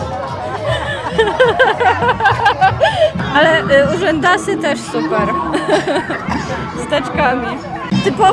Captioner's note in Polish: śmiech